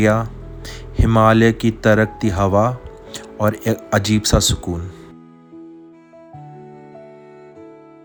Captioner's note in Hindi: नाक से की जाने वाली आवाज़